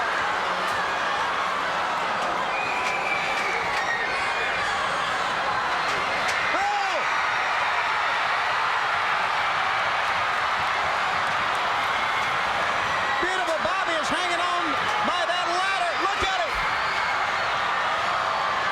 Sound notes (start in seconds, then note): 7.9 crowd screams